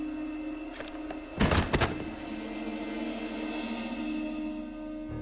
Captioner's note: object clicks and thuds